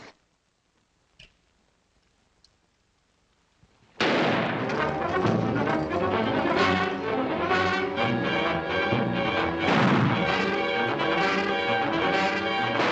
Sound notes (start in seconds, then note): 4.0 gunshot; 5.8 tense music; 9.6 gunshot